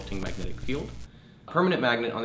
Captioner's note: electricity crackling